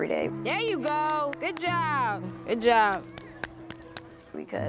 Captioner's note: claps